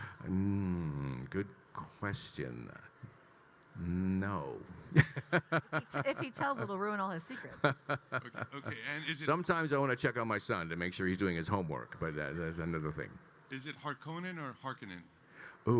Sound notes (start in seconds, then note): 4.9 laughs; 7.4 Kyle laughing